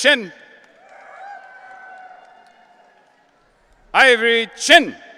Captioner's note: audience cheering